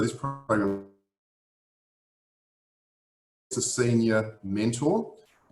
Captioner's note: audio distorts